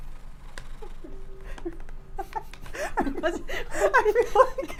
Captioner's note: laughing